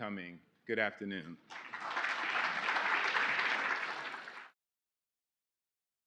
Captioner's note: applause